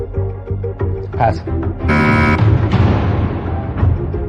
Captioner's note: buzzer sounds